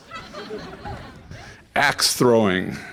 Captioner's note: audience laughs